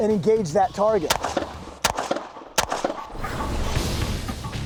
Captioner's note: gunshots